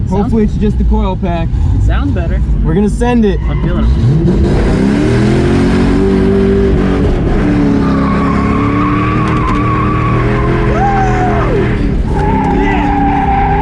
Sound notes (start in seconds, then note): 7.4 series of revs and skids